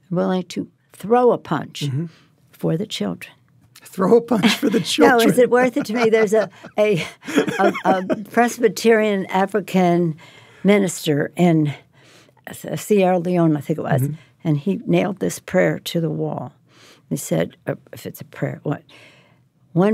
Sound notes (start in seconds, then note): 4.5 laughs